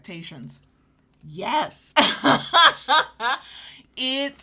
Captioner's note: laughs